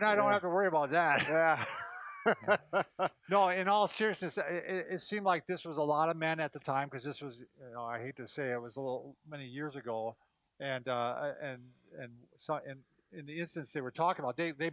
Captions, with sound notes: Brad and I don't have to worry about that, yeah. (both laughing) No in all seriousness, it seemed like this was a lot of men at the time, 'cause this was, I hate to say it, it was many years ago. And in the instance they were talking about,